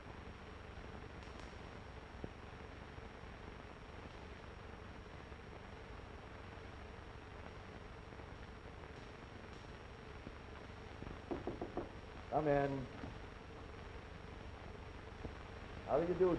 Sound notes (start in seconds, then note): 11.2 knocking